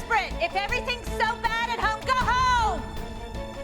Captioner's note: yelling